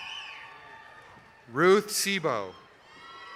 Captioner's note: applause